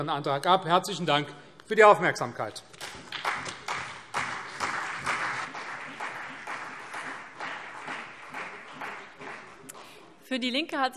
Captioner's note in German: Beifall CDU und BÜNDNIS 90/DIE GRÜNEN